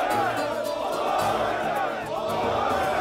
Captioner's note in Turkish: Hep bir ağızdan